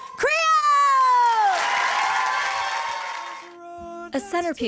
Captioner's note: crowd applauding and cheering